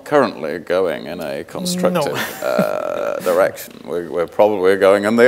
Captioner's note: laughs